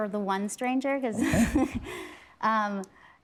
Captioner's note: laughing